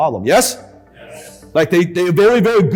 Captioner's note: crowd agrees